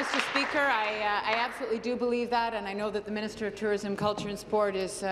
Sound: applause

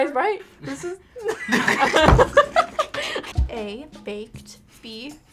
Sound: laughs

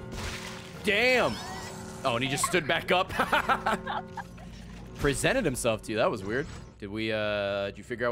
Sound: laughs

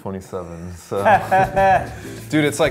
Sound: laughs

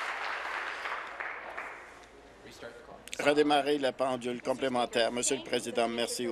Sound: applause

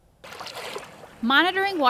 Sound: wave splashing

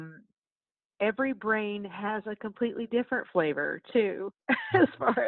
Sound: laughs

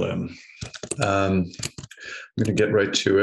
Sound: typing

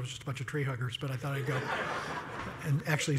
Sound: laugh

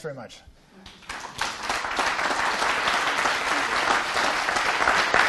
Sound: applause

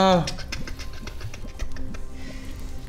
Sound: totally normal scuttling cauldron noises

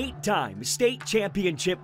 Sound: sounds of football practice

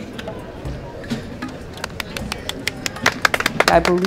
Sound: clapping

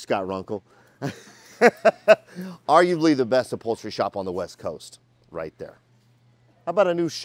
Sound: laughing

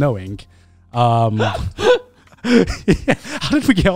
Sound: everyone laughs

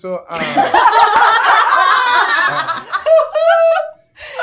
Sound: gamers laughing

